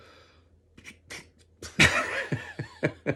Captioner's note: attempts raspberry sound; both laugh